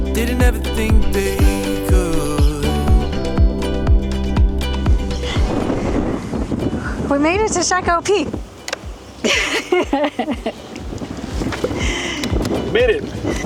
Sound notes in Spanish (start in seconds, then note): 9.2 Risas